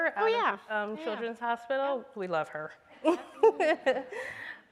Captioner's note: laughs